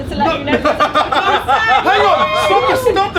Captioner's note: laughing